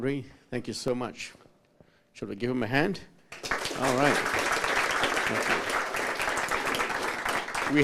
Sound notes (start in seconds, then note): 3.3 applause